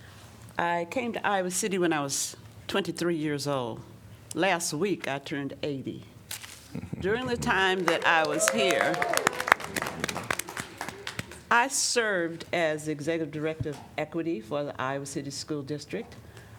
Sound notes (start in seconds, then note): 7.2 applause